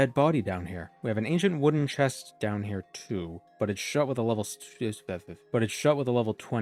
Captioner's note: word fumbling